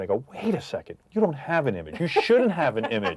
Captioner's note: laughing